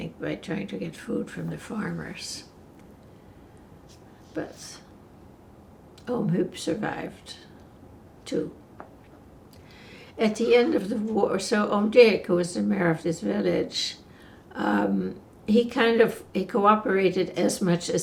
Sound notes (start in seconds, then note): none